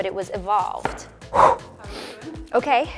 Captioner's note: sharp exhaling